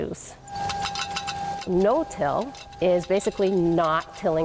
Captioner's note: metal clattering